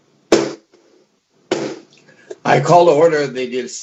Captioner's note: gavel bangs